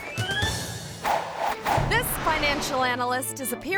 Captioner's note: logo whooshing